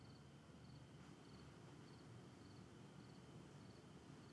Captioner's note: insects chirping